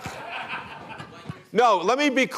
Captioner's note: laughter